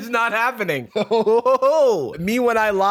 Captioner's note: laughing